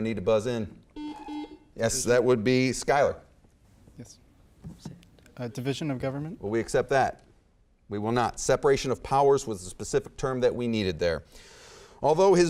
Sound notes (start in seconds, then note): 0.9 beeping